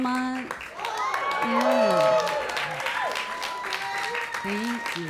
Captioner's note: audience applauding and cheering